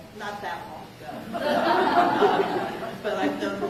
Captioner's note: laughter